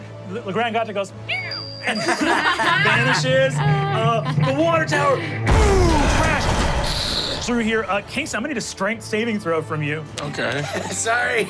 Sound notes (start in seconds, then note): 1.9 everyone laughs; 5.4 imitates crashing